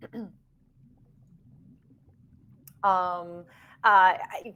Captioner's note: water churning